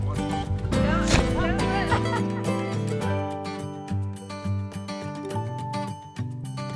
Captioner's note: people laughing; object thuds